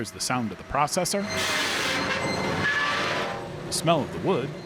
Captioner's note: saw whining